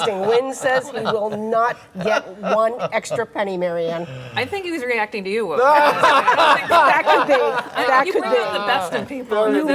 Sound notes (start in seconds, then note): 5.6 laughter